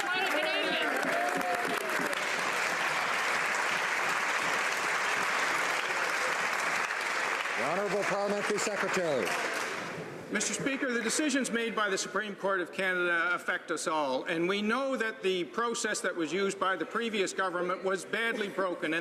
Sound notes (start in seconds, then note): 6.1 some Applause